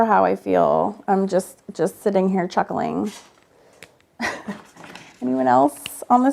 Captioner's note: chuckles